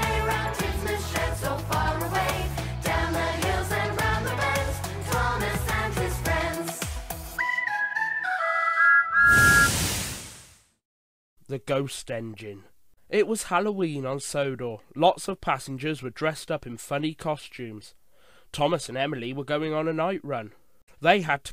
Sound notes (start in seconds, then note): 7.4 thomas whistles